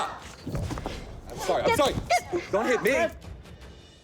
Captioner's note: grunts